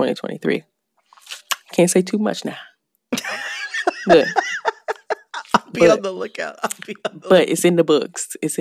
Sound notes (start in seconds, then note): 3.1 laughter